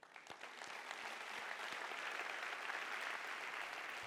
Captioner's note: audience applauding